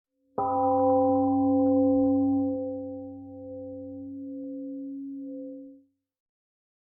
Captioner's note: temple gong rings and fades